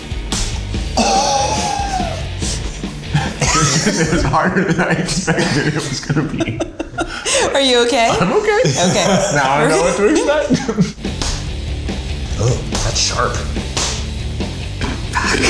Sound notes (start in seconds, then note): 0.3 upbeat music; 6.5 mistress laughing; 11.5 upbeat music; 13.8 upbeat music continuous